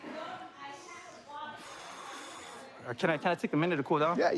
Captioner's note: exhales